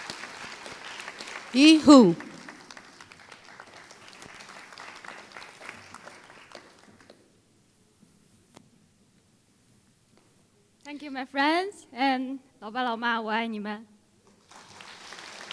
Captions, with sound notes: Yi Hu [Applause] Thank you my friends and [Foreign Language]